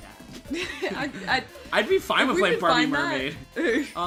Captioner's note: laughing